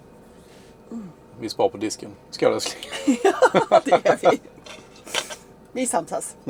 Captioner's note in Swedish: skratt